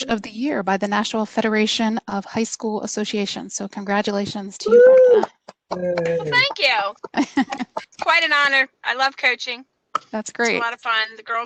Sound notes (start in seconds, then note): 5.1 applause; 5.2 laughter